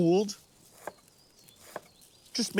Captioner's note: knife chopping